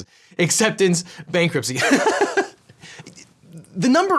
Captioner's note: laughs